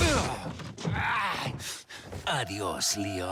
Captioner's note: Luis exclaims